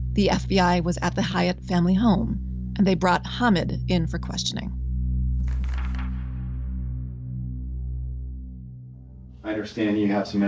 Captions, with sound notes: the FBI was at the Hayat family home, and they brought Hamid in for questioning. (slide flips)